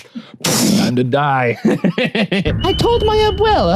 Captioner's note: laughs